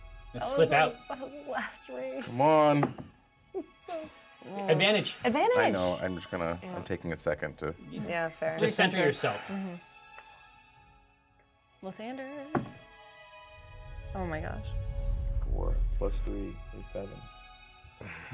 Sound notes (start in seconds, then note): 3.4 chuckles